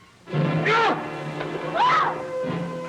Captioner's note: screams